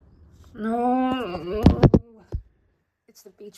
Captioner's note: thuds of despair